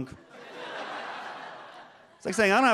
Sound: audience laughs

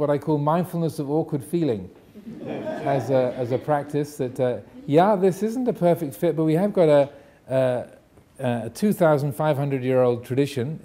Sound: audience laughing

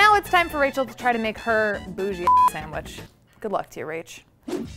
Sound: beep

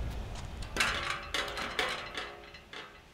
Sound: rattle

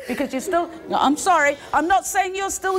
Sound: audience gasps

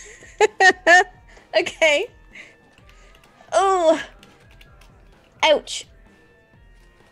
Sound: laughs

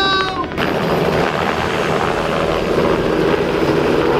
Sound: helicopter noises

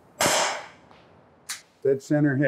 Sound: gunshot

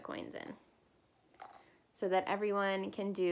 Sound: coin tossing

